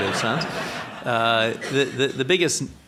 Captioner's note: audience laughing